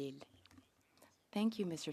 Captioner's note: speaking French